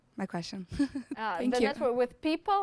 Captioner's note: snickers